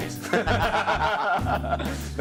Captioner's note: laughter